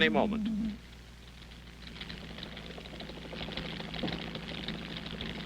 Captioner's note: helicopter rotors beating